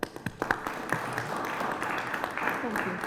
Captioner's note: applause